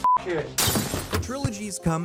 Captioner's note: glass shattering